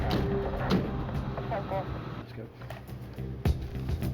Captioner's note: police radios